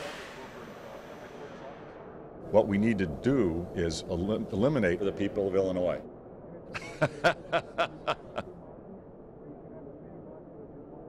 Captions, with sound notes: What we need to do is eliminate the people of Illinois. (laughs)